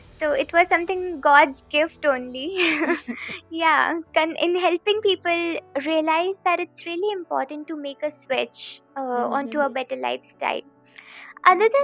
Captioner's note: laughing